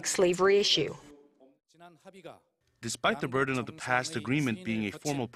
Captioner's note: Korean